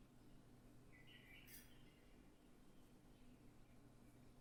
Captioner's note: birds singing